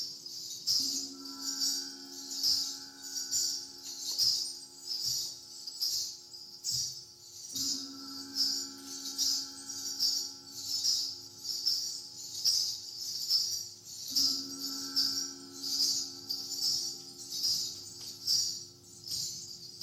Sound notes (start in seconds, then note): 1.0 gong continues chiming